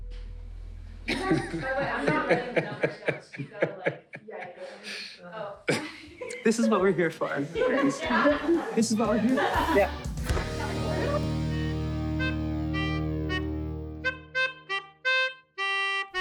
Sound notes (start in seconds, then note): 1.0 laughter and crosstalk